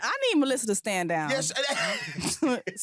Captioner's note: laughter